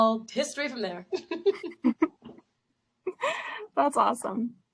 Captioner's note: both laugh